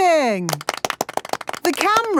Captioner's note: applause